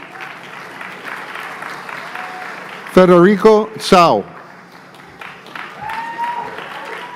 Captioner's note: applause